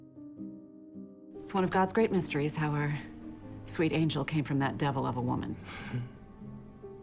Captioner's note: voiceover